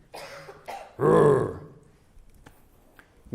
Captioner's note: rawr